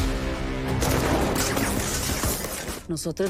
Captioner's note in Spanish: Tiroteo